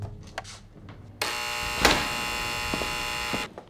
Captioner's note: door Buzzes